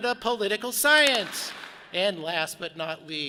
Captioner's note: audience claps